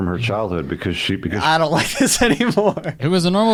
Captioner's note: laughs